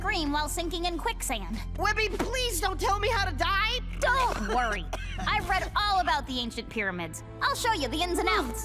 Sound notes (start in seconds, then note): 4.1 coughing